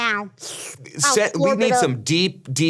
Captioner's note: slurps